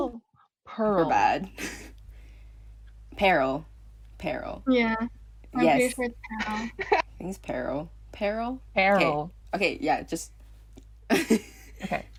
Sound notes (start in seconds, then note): 6.4 laughs